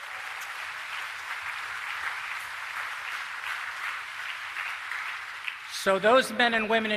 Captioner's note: applause